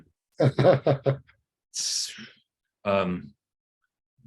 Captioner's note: host laughs